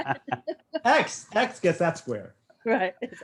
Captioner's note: all laugh